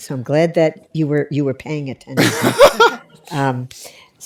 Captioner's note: laughter